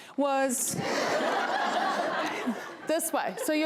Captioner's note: laughs